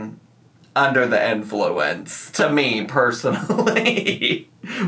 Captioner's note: laughs